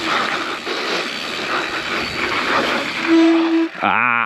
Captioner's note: bike wheel skirts